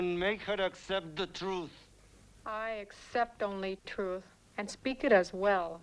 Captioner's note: none